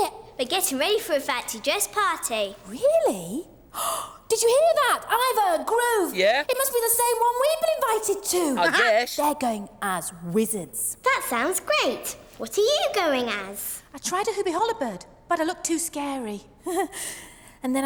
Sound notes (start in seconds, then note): 3.7 Tula Gasps; 16.7 Tula chuckles